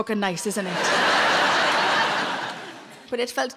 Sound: laughing

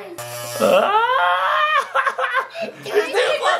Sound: screams

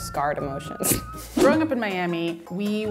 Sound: chuckling

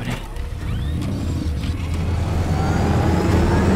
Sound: vehicle doors close; engine starts and revs up; Batmobile drives off

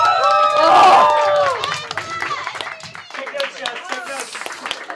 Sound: audience Applause

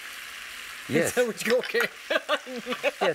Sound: laughs

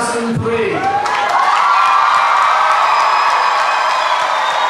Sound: clapping and cheering

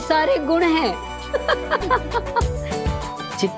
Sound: laughing

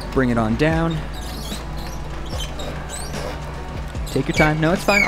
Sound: machinery squealing

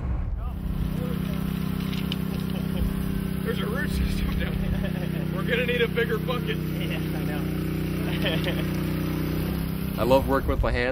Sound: sound Effects

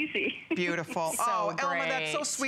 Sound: laughter

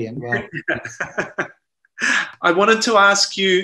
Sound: laughs

